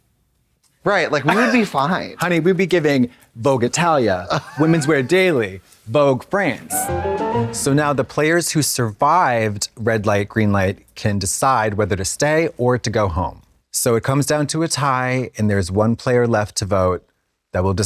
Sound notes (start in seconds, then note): 6.6 bright chime